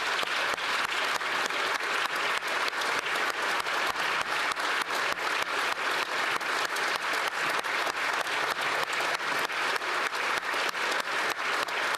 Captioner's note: applause